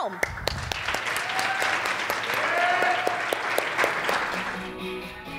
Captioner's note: audience applauds and cheers